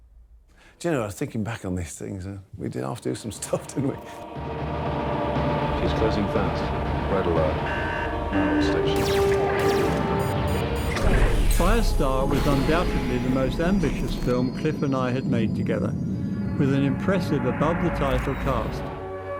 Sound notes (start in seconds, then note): 6.1 dramatic music; 8.7 laser zapping; 9.6 alarm sounding; 11.5 digital beeping